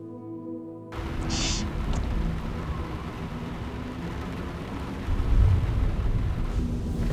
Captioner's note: crying